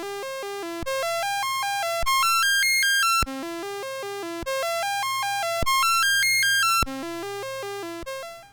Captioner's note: rising and declining series of C64 tones